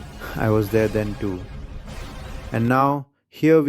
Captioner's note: sighs